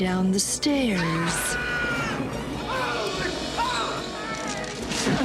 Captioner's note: man screams